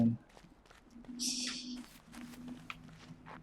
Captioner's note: laughs softly